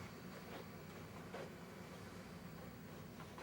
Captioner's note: soft footsteps